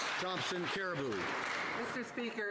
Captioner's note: some Applause